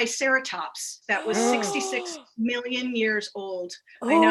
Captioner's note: announcers gasp